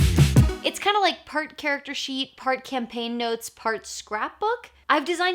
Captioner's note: none